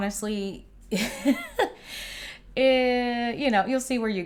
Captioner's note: chuckles